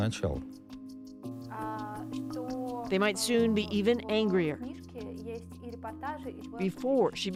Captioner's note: speaking alternate language